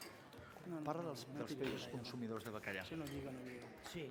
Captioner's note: non-english speech